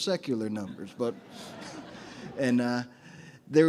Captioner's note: audience chuckles